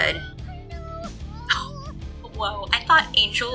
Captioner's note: laugh